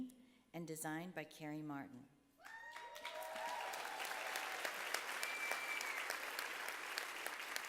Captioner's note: applause